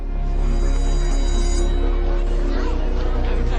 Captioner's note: school bell ringing; somber music